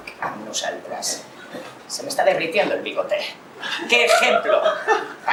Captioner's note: laughs